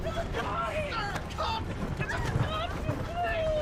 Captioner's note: scattered yelling